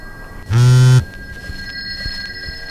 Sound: cell phone buzz

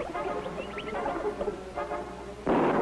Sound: thunder

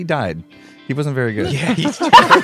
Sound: crowd laughs

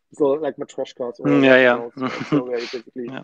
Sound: laughs

